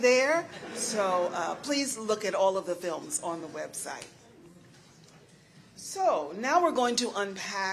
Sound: laughter

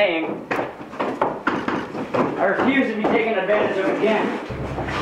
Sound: footsteps; sounds of a scuffle

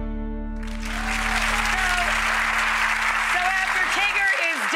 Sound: audience applause

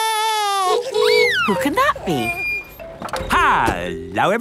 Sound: wailing; honking

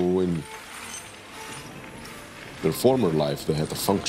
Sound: copper clattering

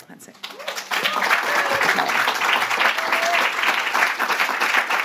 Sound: audience applauds

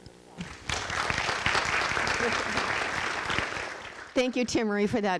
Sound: audience clapping

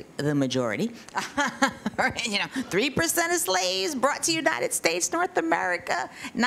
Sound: laughs

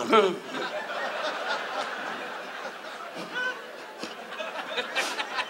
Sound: audience laughs

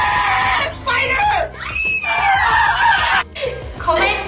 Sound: screaming

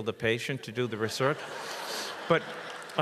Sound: audience laughs

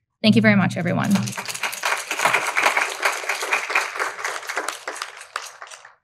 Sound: audience applauding

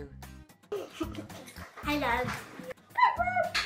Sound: laughs

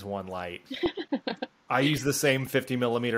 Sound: laughs

